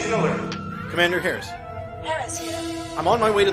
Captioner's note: comm voice